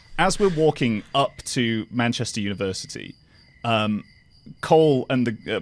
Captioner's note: none